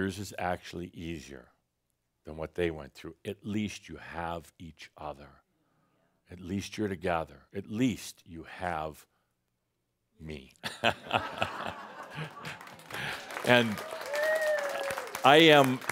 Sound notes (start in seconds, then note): 10.6 Adamus chuckles and some audience applause